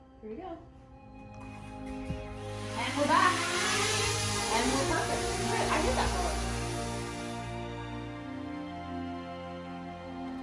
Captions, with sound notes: Here we go. And we're back. (drone rotors whine) and we're perfect. (slow dramatic music)